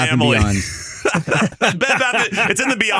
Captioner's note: laughing